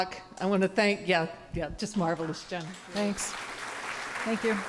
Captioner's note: applause